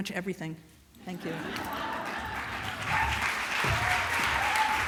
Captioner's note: laughter